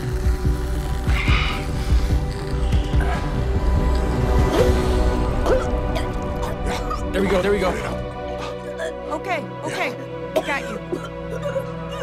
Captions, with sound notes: Come on... - [coughing] - There we go, there we go. - Okay, okay, we got you.